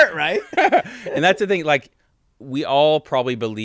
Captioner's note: laughs